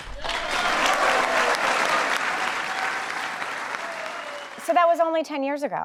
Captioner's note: cheers and applause